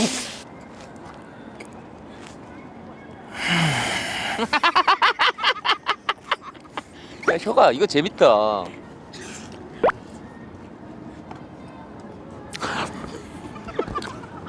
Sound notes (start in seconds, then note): 3.7 laughing